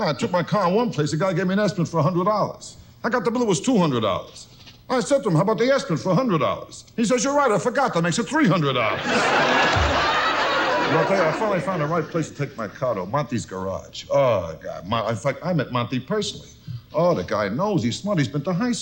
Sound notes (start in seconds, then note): 8.9 audience loudly laughs